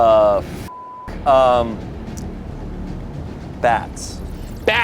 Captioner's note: beep